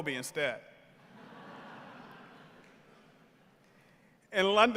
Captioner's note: members of the audience laughing